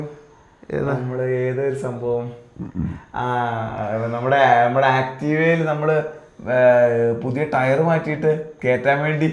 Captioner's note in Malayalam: തൊണ്ട ശരിയാക്കുന്നു